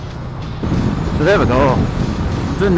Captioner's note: wind whistling